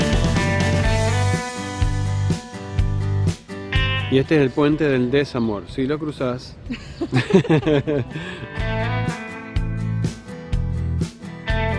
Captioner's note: laughs